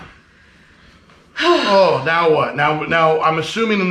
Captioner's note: both sighing